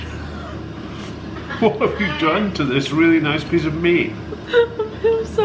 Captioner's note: laughing